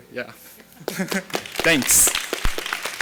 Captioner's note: laughing; audience applauding